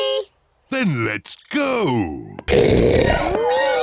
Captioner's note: oinks